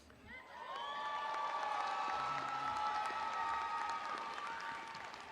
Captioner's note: audience applauding